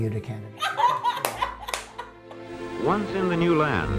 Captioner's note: laughing, applauding